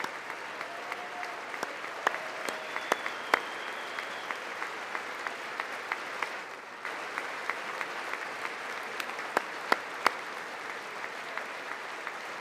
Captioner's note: applause